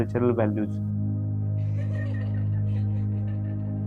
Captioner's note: children laugh